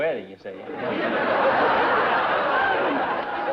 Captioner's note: laughter